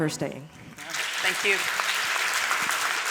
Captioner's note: audience applause